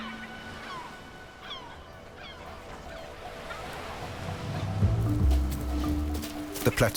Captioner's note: gulls cawing; light music continues